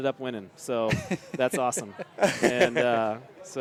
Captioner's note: laughter